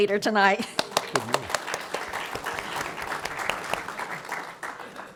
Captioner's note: applause